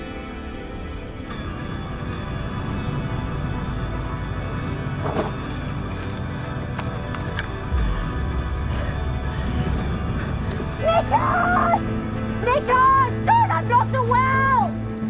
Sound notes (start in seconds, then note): 9.8 Olive gasps